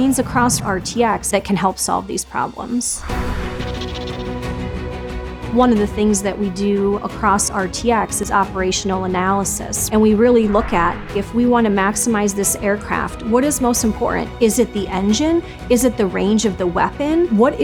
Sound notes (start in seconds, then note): 2.9 air whooshing; 3.1 epic music